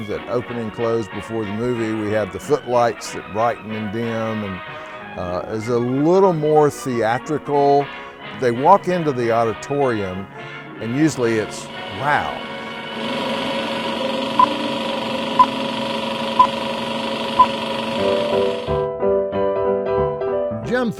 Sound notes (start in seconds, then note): 12.5 engine roaring; 14.3 screen beeping; 18.2 upbeat music